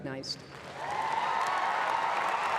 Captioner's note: applause